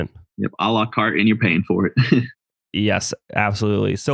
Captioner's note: laughs